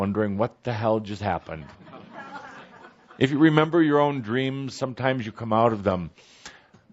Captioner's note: laughter